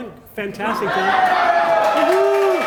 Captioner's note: applause